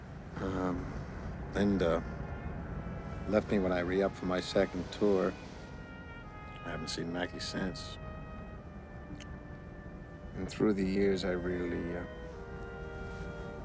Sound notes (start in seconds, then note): none